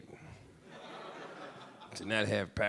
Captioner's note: audience laughing